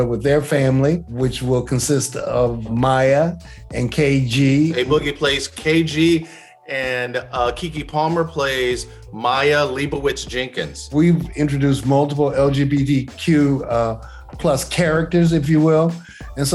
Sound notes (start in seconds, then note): none